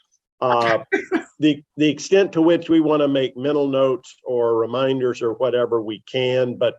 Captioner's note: laughter